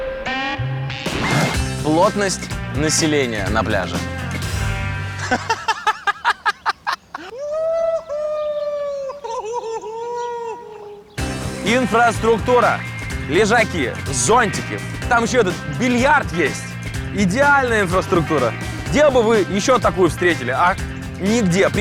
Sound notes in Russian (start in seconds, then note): 6.9 смеётся